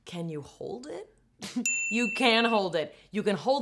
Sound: bright ding

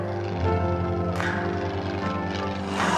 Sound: airplane rumbles

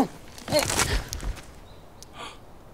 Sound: snapping

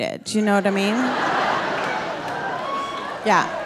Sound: audience laughing

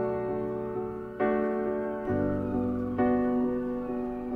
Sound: sirens wailing

